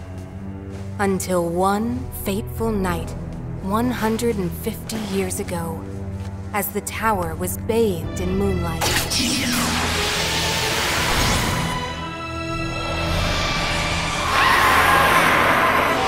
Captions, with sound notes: Until one fateful night, 150 years ago, as the tower was bathed in moonlight. [powers up] [shrieks]